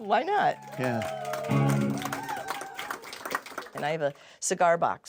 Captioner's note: audience cheering; laughs